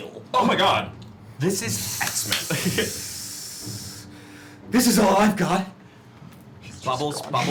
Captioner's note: steam hisses